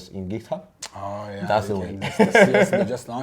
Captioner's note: lips smack; laughs